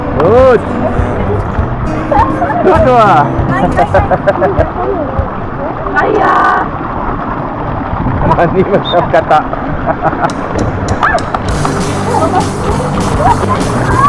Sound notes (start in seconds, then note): 3.7 laugh